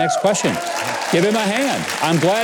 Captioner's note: audience applause